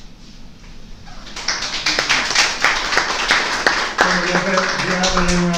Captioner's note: applauses